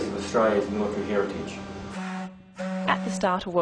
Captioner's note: sound of ship's honk